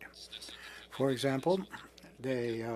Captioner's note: speaking French